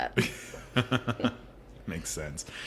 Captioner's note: laughing